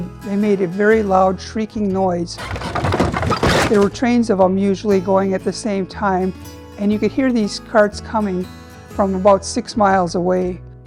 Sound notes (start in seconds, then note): 2.4 wheels shrieking